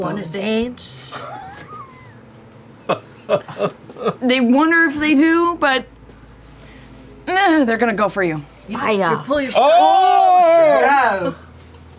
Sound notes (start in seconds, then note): 2.8 laughter; 9.6 oohing